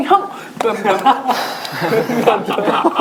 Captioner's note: laughing; exhale